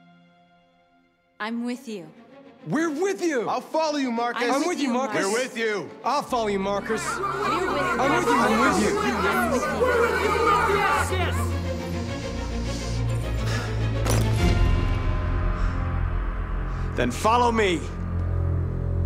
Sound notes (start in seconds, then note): 6.8 shouts of approval; 11.4 deep breath